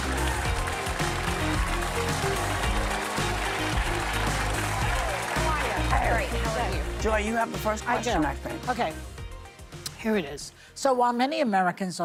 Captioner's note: applause